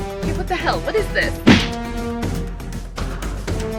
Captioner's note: gun thuds